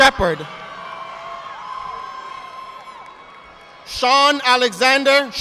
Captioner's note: audience applauding